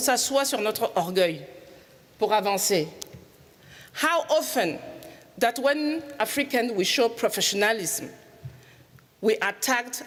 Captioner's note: speaking in French